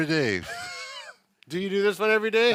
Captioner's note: laughing